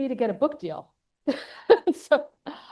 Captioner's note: laughs